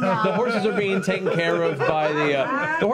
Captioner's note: laughter